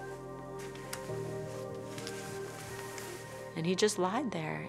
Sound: fabric shuffling; uptempo whimsical music

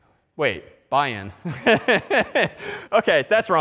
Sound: laughter

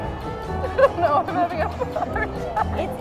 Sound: laughs

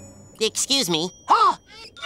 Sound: gasping

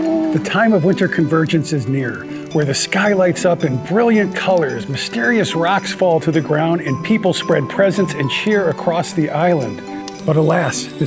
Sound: Whiskers gasps

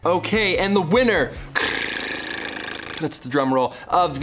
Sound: rolls tongue

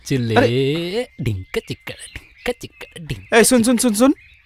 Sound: humming

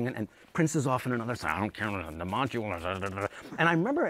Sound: muttering

